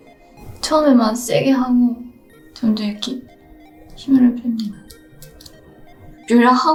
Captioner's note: gentle music continues; foreign language continues